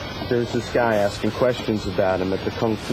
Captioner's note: none